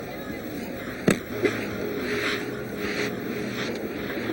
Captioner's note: stick thuds